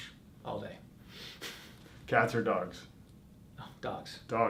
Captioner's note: chuckles